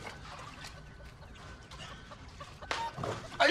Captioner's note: chickens clucking in the background